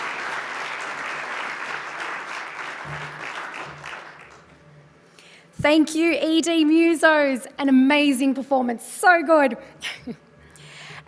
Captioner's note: applause